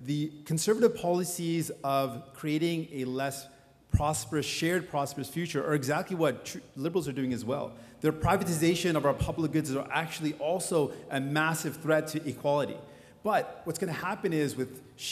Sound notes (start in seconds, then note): none